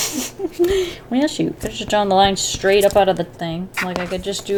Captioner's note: laughs